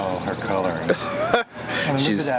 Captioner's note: laughing